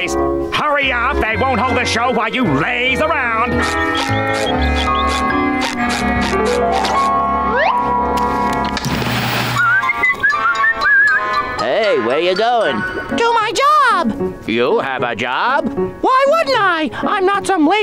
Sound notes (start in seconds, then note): 9.5 whistling